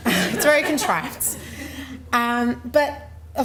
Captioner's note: laughing